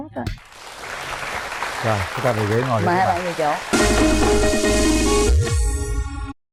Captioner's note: applause